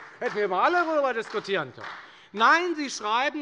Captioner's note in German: Beifall bei der FDP und der SPD